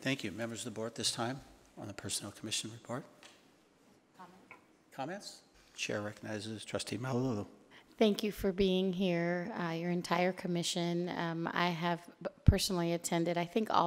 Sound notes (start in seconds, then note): 4.3 woman speaks faintly